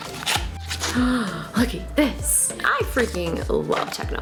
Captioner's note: gasps